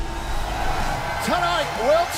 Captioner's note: crowd cheering